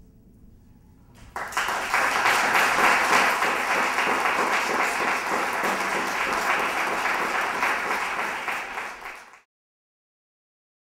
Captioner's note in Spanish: aplausos